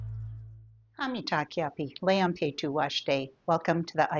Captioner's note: speaking in Native language